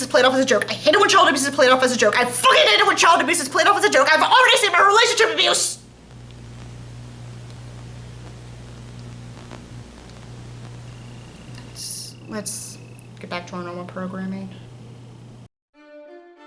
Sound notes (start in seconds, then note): 12.3 Static